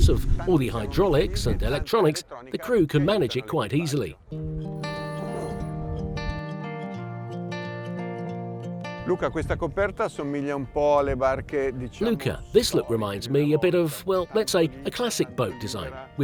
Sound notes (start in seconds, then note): 4.5 laid-back music; 9.2 speaking in foreign language